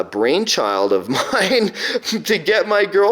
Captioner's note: laughing